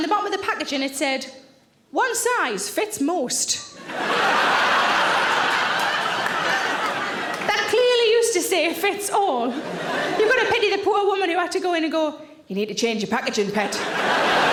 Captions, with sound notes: And on the bottom of the packaging it said, "One size fits most." (audience laughs) That clearly used to say fits all. You've gotta pity the poor woman who had to go in and go, "You need to change your packaging, pet.